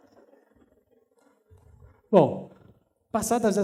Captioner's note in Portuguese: risos